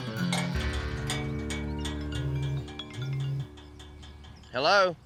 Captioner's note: phone ringing